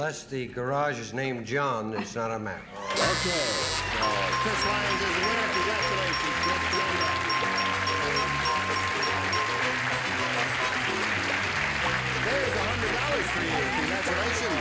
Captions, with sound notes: -Unless the garage is named John, it's not a match. -Okay. So Chris Lyons is the winner, congratulations. Well done. (cheers and applause) There's $100 for you. Congratulations.